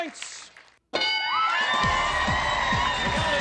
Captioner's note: screaming